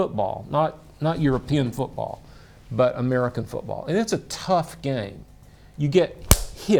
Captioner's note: slaps leg